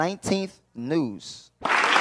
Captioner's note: applause